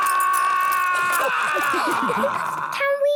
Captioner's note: all laughing